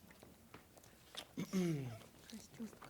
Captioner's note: clears throat